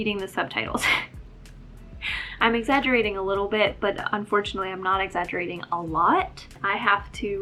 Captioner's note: laugh